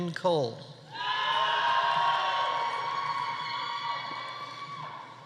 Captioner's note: audience cheering